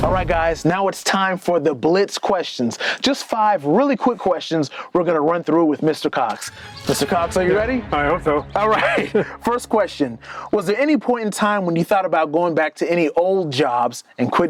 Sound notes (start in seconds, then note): 8.5 chuckles